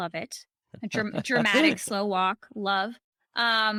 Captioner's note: chuckles